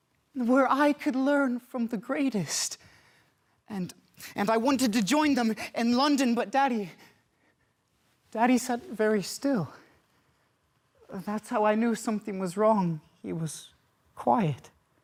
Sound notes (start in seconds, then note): 7.0 soft breathing; 9.8 silence